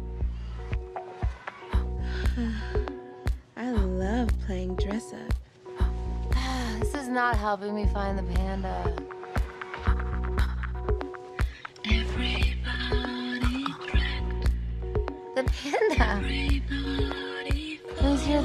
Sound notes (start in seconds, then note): 1.3 exhales; 6.3 sighs